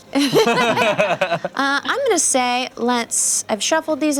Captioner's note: laughter